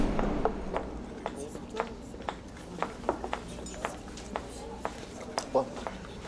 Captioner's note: footsteps